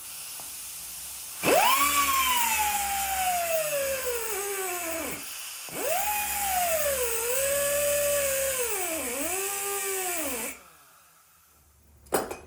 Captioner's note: drill whirring